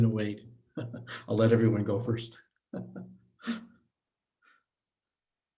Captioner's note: chuckles